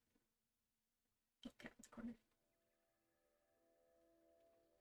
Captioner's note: quietly